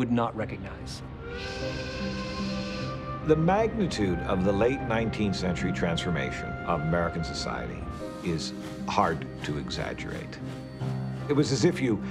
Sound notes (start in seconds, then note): 2.1 whistle blows